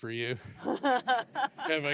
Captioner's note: laughter